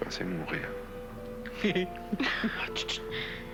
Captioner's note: Rire